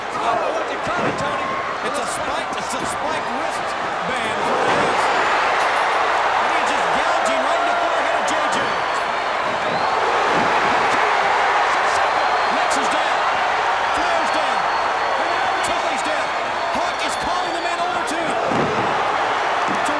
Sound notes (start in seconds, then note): 4.7 crowd cheers; 11.0 crowd's roar drowns out commentary